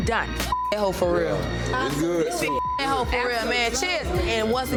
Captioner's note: overlapping chattering; beep